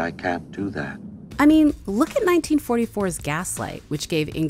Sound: voiceover

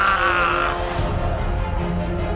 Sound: vomit sound

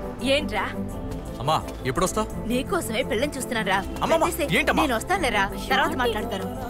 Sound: none

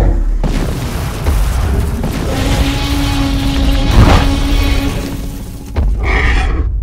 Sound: Crash sounds with Omega T-Rex Roars

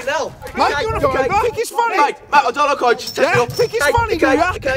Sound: arguing

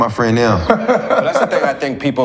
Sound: laughing

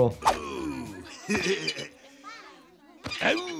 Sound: Otto laughing

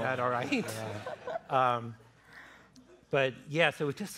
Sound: laughter

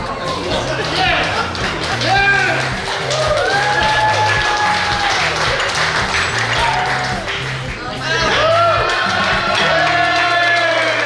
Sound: cheering & Clapping

